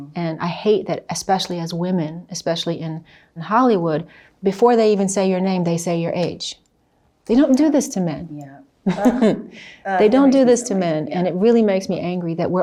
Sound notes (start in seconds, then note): 8.9 chuckles